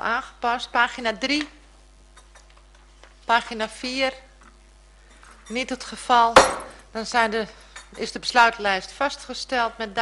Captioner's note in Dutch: voorzitter klopt met hamer